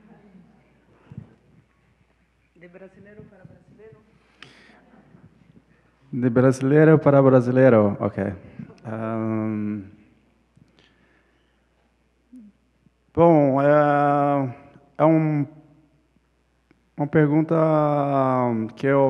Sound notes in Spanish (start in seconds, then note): 9.1 ponente habla en portugués